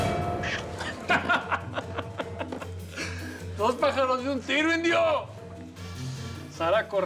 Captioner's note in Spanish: carcajadas